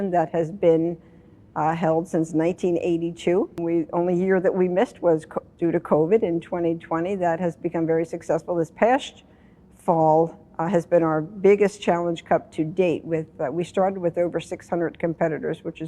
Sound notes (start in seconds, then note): none